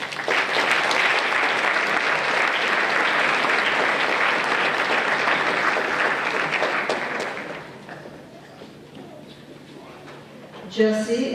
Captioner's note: applause